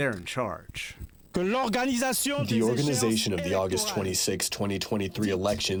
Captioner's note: through translator